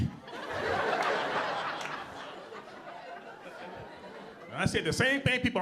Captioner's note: audience laughing